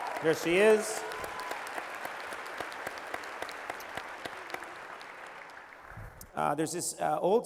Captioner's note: applause